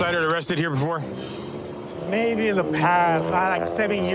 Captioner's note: exhales sharply